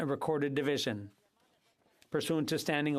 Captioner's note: speaking French